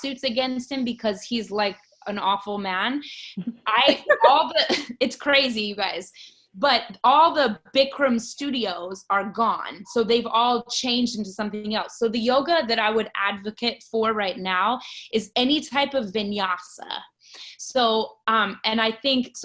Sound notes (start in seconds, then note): 3.9 laughs